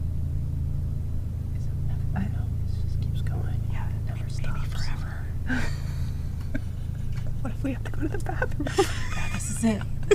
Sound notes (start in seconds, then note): 2.8 whispering; 7.9 laughs